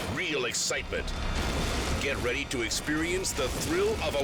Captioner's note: plane crashes